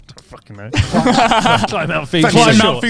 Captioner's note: all laughing quickly